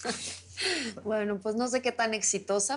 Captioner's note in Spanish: Risas